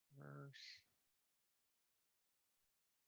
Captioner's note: murmurs